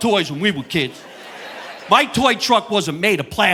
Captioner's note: audience laughing